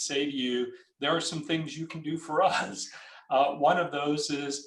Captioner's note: laughs